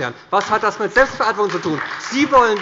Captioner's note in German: Beifall bei der SPD und bei Abgeordneten des BÜNDNISSES 90/DIE GRÜNEN